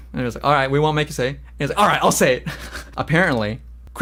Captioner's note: laughs